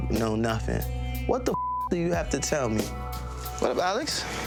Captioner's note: beeps